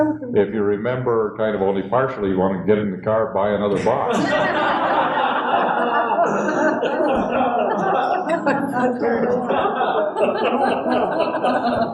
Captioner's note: laughter